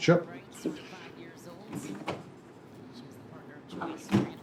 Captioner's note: TV quietly prattling